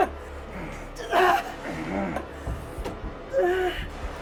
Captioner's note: Sue grunting